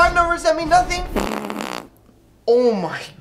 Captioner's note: fart